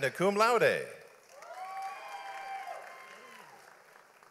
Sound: audience applauds

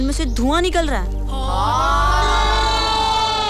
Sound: gasps

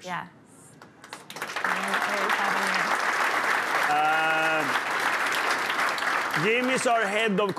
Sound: applause

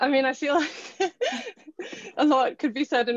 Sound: laughing

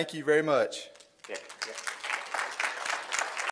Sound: applause

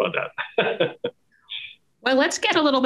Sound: laughs

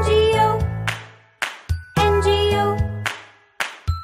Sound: clap

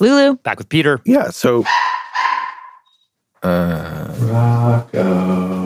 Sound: dog barking

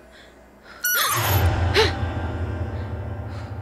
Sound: squeak

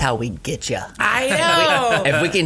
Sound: laughing

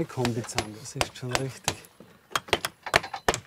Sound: hammering

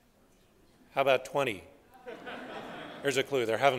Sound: laughter

